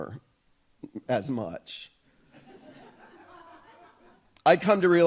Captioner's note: audience laughs